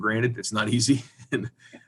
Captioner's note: chuckles